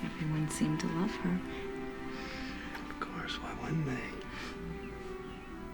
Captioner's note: none